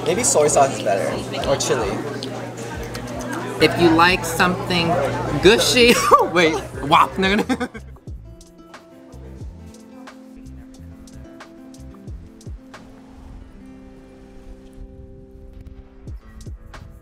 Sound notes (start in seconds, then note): 5.8 laughs; 9.1 light music